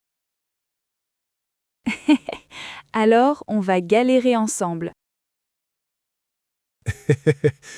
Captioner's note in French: rire